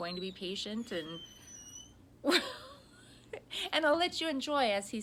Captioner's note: Cooper whines; laughs